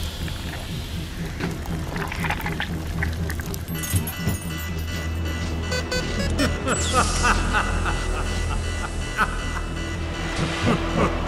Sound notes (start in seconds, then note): 0.1 flesh squelching; 0.1 suspenseful music continues; 3.6 alarm blaring; 5.6 keypad beeps; 6.3 creature laughing